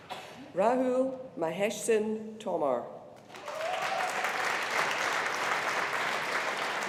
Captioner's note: audience applauding